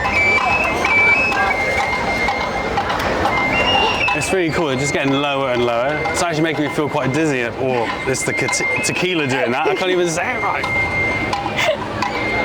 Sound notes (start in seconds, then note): 8.0 stumbles over words